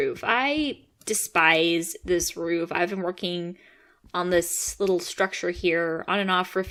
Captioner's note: none